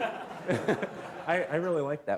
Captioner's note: laughter